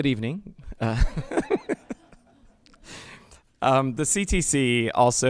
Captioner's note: laughing